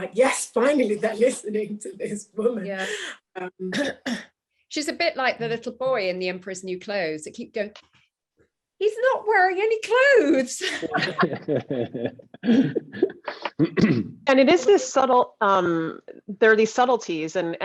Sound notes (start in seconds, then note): 10.6 all laughing